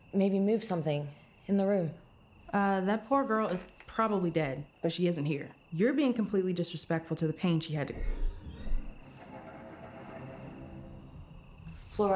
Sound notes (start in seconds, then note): 8.0 suspenseful music; 8.0 object scraping